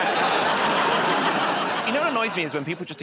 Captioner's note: laughter